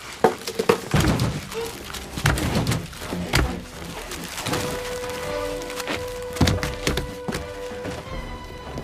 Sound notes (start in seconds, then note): 0.3 head thudding